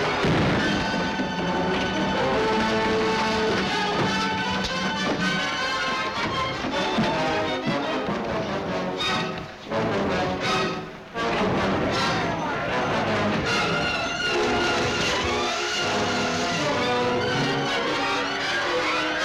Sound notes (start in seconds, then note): 9.3 men fighting; 15.0 intense dramatic music